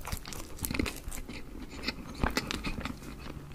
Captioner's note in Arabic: يتم مضغ رقائق الشوكولاتة واحدة تلو الأخرى